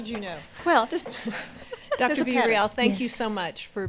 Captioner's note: chuckles